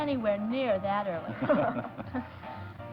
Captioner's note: laughter